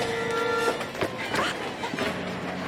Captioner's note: exclaims